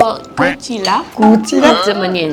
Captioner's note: confused